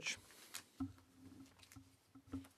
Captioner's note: speaking French